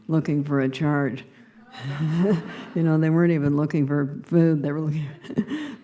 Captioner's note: subdued laughter